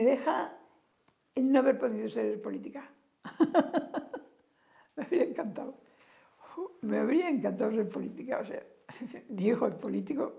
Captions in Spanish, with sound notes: el no haber podido ser política [Ríe]. Me habría encantado. Me habría encantado ser política, o sea, mi hijo es político,